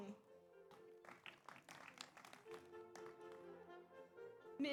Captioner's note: audience applauds